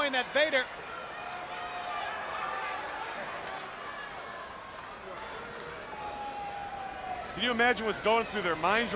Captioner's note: crowd chatter